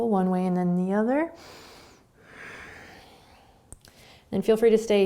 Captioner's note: breathing